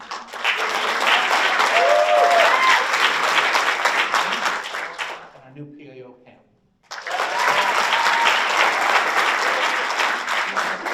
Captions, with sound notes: (audience applauds and cheers) Our new PAO, Pam. (audience applauds)